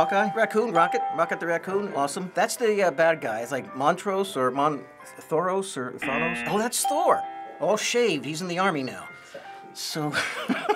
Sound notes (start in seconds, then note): 6.0 buzzer; 10.1 chuckling